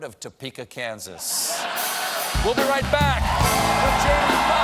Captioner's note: laughter